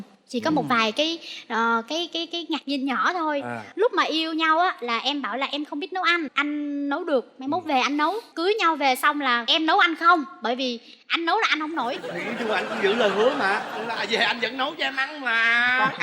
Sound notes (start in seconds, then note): 11.8 laughing